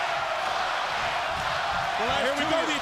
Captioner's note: crowd cheering